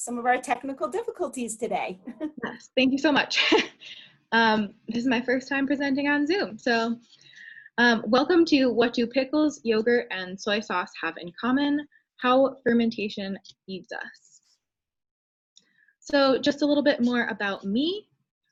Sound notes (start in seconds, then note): 4.1 laughs